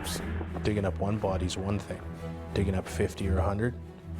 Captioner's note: voiceover